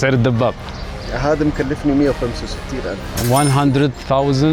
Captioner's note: Arabic